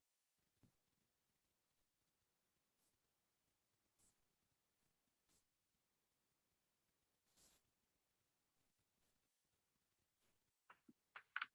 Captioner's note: brief silence